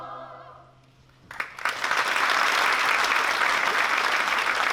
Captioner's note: applause